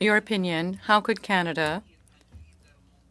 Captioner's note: speaking French